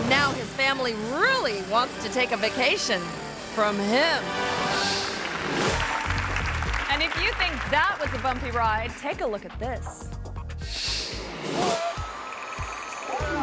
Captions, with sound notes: and now his family really wants to take a vacation from him. (audience applauding) And if you think that was a bumpy ride, take a look at this.